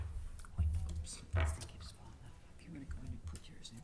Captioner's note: faintly speaking